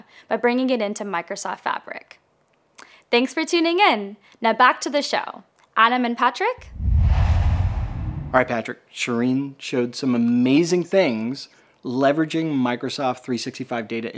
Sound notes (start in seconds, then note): 6.6 logo swooshes